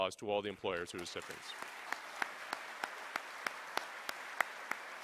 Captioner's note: applause